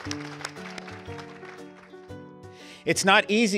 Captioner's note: applause